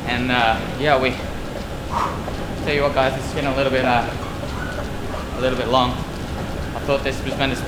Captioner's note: breath